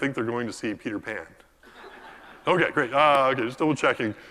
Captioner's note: laugh